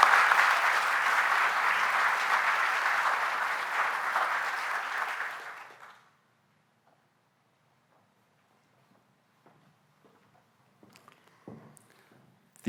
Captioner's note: applause